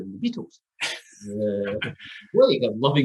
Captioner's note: laughs